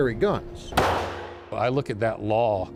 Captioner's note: gun shot